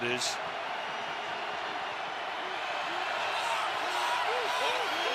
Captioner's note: crowd cheering